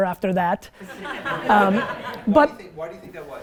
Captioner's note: students laugh